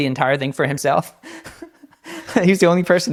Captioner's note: laughing